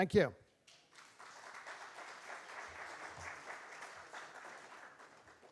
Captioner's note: applause